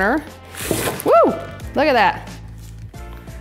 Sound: cheers

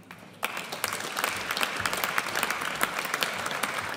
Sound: audience applauds

